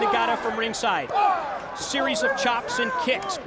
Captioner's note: crowd cheering